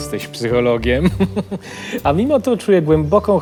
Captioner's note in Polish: śmiech